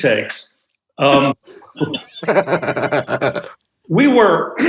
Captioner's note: group laughs